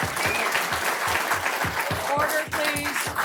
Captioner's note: applause